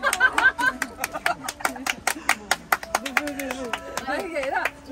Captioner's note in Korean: 물개박수